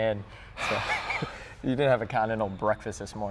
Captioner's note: sighs